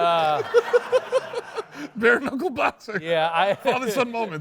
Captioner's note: laughs